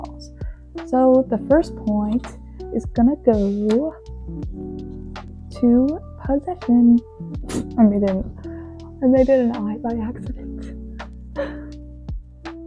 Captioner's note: laughs